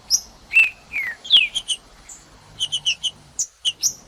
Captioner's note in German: trinca ferro cantando